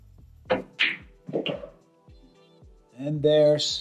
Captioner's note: balls clanging